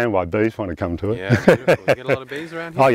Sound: laughs

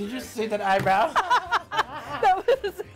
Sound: both laugh hysterically

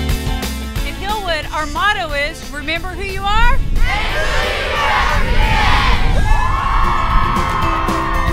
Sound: cheering

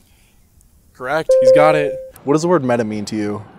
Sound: correct sound

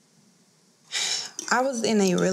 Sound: sighing

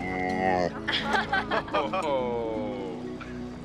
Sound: all laugh

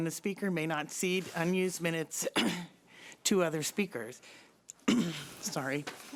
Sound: clears throat

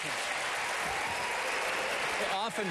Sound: applause

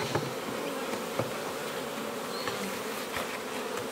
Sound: bees buzzing

